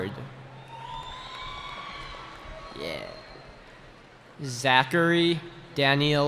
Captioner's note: cheering